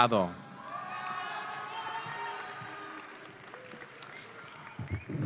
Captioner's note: audience cheering